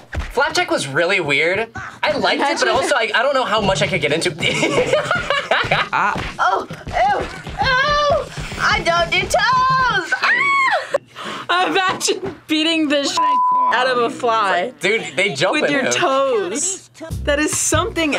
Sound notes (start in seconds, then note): 4.5 laughing; 10.2 screams; 13.1 beep